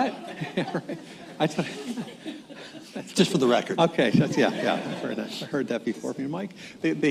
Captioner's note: laughter